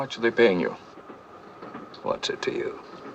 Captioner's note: train noise